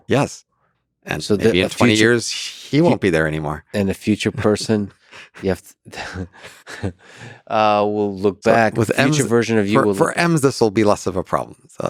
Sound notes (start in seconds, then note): 6.0 chuckles